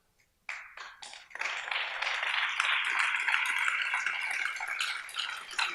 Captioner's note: audience applauds